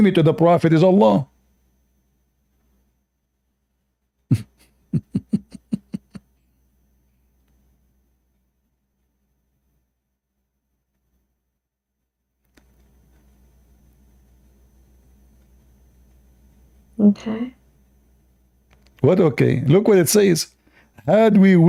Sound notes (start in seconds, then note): 4.8 Ketawa